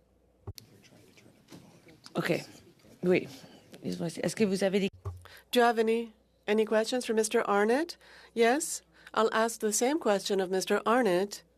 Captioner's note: speaking French